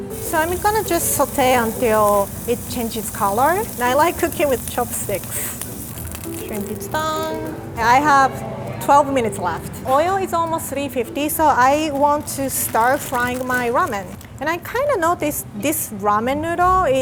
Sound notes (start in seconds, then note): none